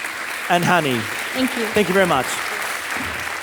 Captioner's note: audience applauding